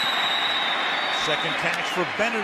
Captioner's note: whistles